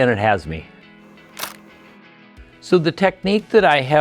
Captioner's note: camera clicks